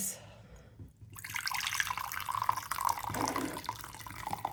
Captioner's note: liquid pouring